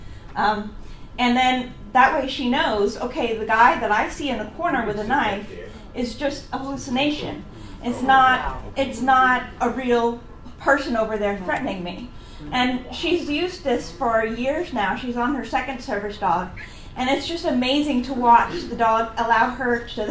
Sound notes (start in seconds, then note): 7.1 "Wow!" from audience